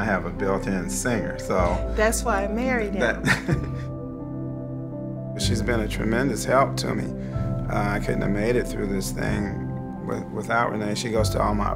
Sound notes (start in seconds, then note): 3.1 laughing